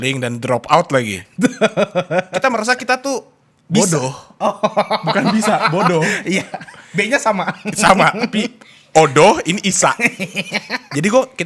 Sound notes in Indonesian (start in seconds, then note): 4.4 ketawa